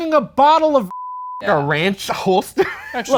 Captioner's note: beeps